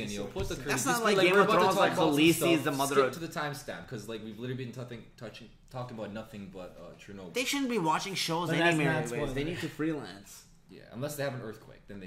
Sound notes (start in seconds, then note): none